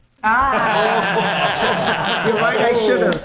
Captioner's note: laughing